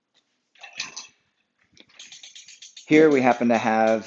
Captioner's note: road bike clicking